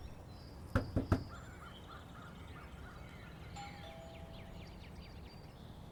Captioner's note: walking; walking up porch; doorbell ring; knock knock on door